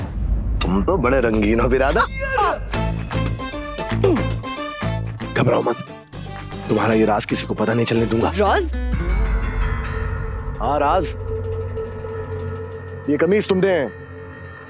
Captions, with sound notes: - That's a jazzy outfit, brother! - Ouch! - [comical music playing] - [clears throat] Don't worry. - I won't tell anyone your secret. - Secret! [suspenseful music playing] Yes, secret! This shirt...